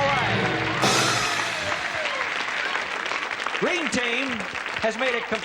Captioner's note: applause